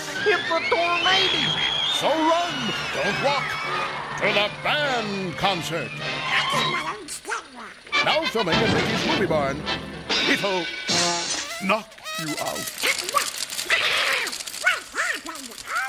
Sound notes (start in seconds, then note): 11.1 background horn honking; 13.6 background Donald startled quacking